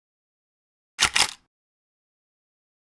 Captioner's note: camera click